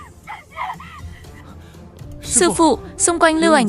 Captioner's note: crying; shouting